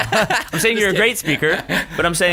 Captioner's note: laughter